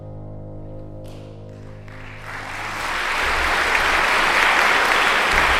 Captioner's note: audience applauds